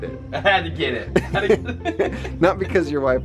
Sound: laughing

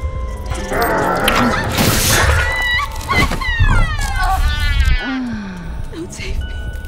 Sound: demonic growling; screaming

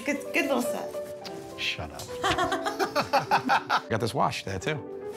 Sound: laughter

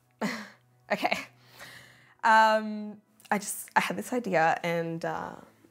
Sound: chuckles

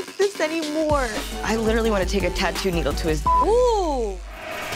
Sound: beep

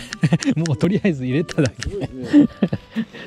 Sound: laughs

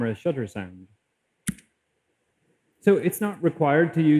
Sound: click

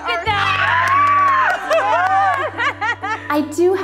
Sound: all screaming

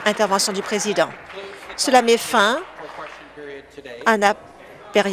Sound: applause

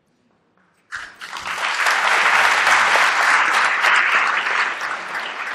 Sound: applause

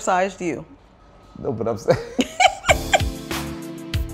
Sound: laughs

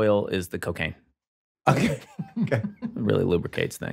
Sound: laughs

